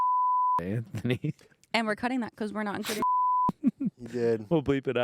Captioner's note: beep; beep